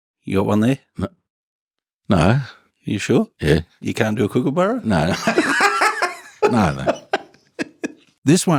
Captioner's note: laughs like a Kookaburra